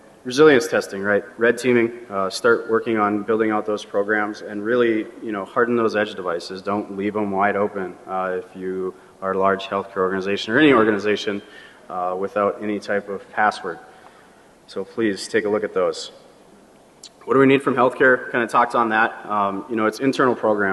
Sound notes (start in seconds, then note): none